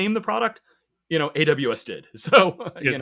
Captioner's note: chuckles